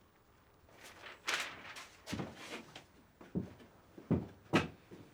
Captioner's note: paper rustling